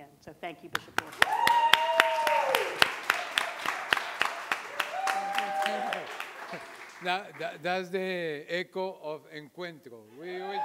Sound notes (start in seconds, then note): 1.0 audience cheering; 9.2 foreign language